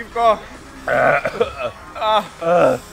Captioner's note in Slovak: zvuky dusenia